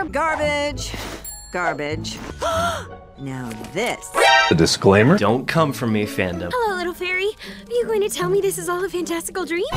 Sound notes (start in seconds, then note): 2.4 gasp